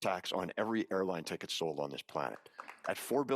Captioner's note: audience applauding